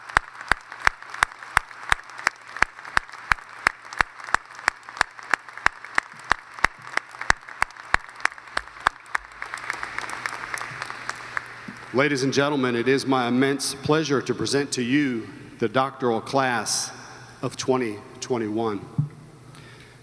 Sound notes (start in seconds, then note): 4.1 applause